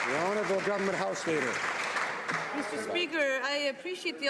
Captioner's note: some Applause